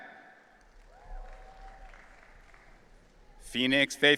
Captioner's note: audience cheering